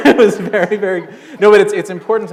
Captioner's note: laughter